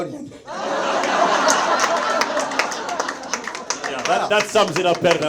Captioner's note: audience laughs; audience members applaud